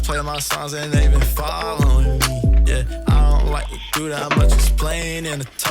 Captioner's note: upbeat music; making coffee sounds